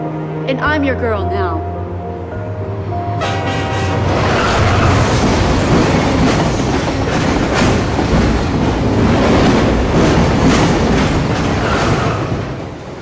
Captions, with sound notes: And I'm your girl now. [train hooting]